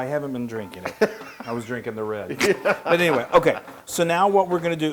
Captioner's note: laugh